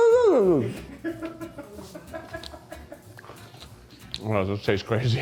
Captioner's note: crew member laughs